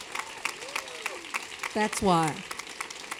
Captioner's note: applause